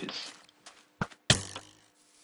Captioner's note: arrow being fired